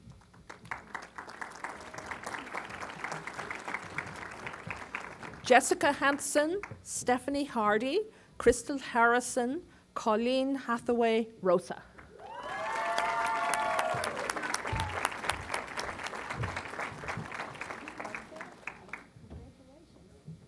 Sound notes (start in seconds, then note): 0.0 applause; 12.2 applause